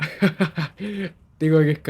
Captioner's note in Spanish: risas